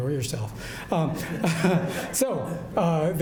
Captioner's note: audience laughs